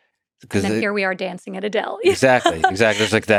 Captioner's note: laughs